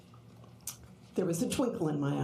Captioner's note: none